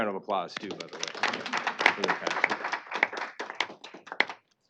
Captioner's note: applause